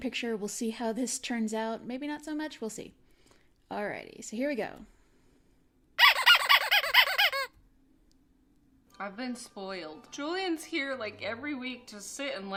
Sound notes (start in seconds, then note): 6.0 rubber Duckie Noises